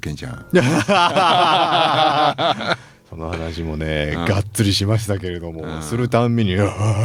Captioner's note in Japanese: 笑い